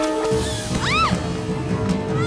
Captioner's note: screams